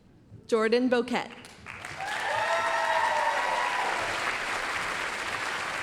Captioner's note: applause, cheering